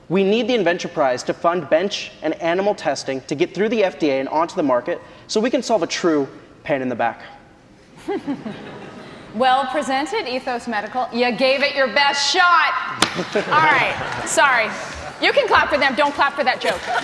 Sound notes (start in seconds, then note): 8.0 laughing